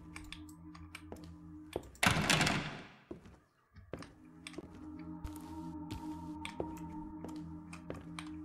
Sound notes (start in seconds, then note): 2.0 door Rattles